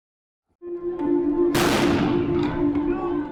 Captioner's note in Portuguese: Som de bomba; música tensa